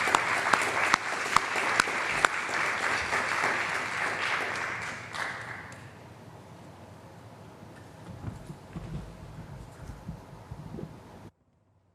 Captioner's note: applause